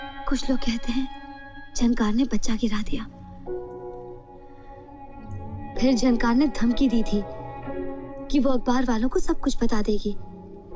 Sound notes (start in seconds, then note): none